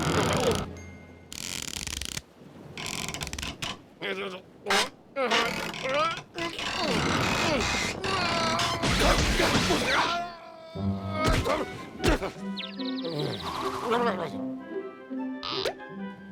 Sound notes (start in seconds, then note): 2.6 board creaks; 5.2 muttering and straining; 11.0 grunts; 12.4 birds tweeting; 13.8 mutters